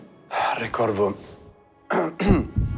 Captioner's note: clears throat; sighs